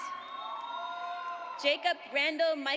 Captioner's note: audience cheers